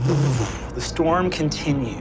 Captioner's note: laughs; imitates reverbaration